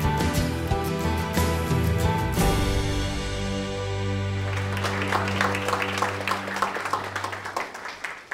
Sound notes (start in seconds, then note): 4.3 applause